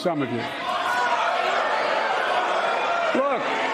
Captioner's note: shouting